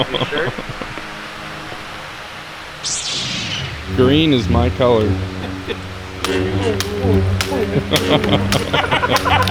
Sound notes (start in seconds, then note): 0.2 laughing; 2.6 lights humming; 7.9 lights cracking